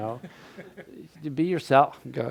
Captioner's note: crowd laughing